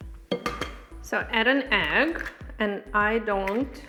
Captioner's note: egg cracking